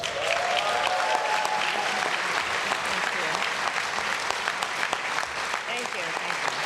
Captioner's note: applause